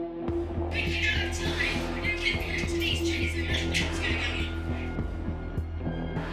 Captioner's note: speech over PA